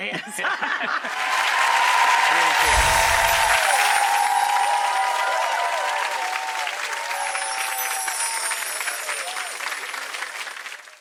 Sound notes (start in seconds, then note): 0.0 laughter; 1.2 audience cheering; 2.5 chimes